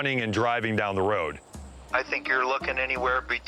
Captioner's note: on speakerphone